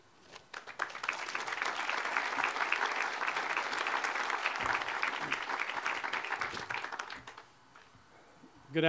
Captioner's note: audience applause